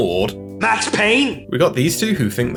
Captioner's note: Max Payne Mobster Voice